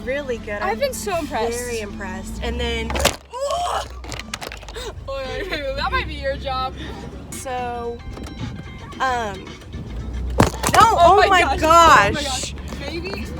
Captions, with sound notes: really good i've been so impressed very impressed and then *Camera Falls* that might be your job so um oh my gosh